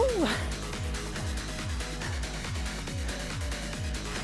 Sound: exclaiming

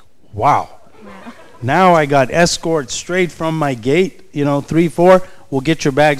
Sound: chuckles

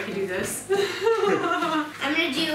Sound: laughs

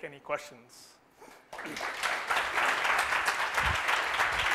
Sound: applause

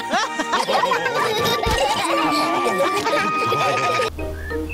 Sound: all laugh

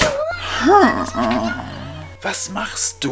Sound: royal sigh

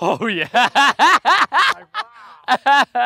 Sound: laughs

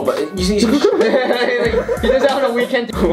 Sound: begin to laugh

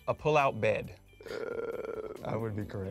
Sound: Michael Chuckles

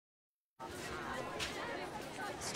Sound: students chattering

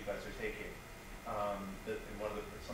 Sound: stuttering

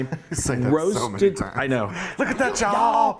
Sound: laughing

